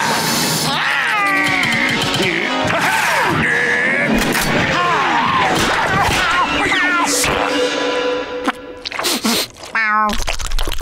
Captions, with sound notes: [growling] Huh-hah! [meowing] Meow.